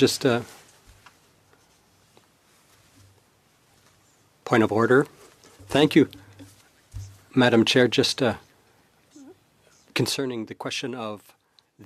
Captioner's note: speaking French